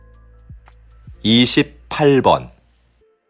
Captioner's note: Korean audio